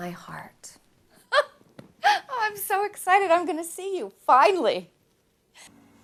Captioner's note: gasp